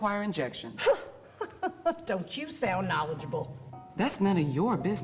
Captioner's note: chuckles